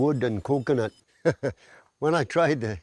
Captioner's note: laughs